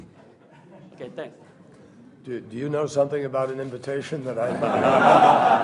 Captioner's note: laughter